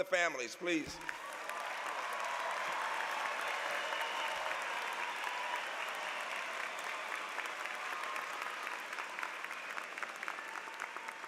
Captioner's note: applause